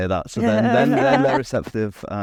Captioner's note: everyone laughs